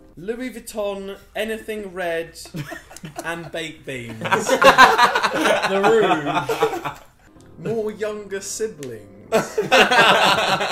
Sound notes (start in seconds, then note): 4.0 group laughing; 9.3 group laughs